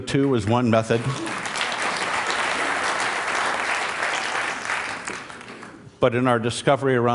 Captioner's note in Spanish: Aplausos